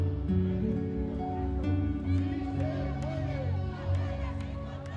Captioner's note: speaking foreign language